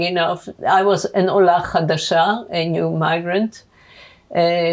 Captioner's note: hebrew